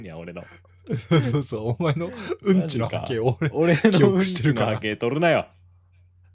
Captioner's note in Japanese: 笑い